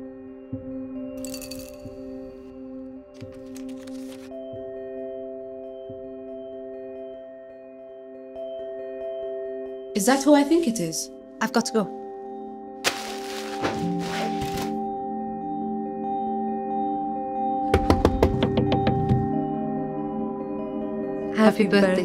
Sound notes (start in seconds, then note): 7.4 sound of crumpling paper; 14.6 banging on door